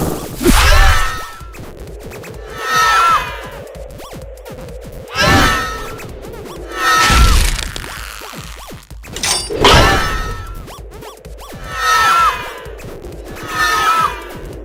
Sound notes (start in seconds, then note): 0.0 all scream; 0.3 all scream again; 2.5 all scream from right to left; 5.1 all scream; 11.7 all scream from left to right; 13.3 all scream from right to left